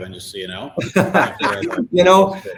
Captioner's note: laugh